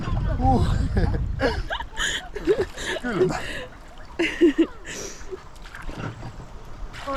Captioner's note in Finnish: naurua